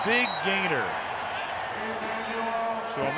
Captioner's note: whistle